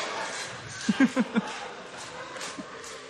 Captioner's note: chuckles